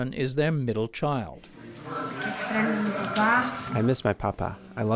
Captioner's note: through translator